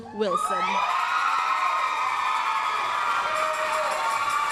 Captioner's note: applause, cheering